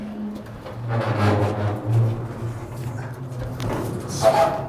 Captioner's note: metal grinds